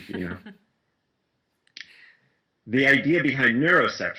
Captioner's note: laughs